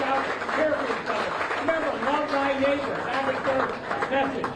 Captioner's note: applause